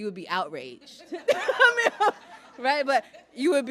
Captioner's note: laughs